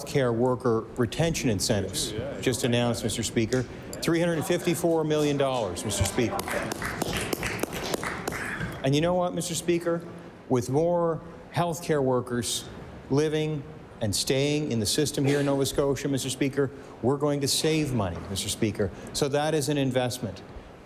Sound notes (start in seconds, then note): 8.8 applause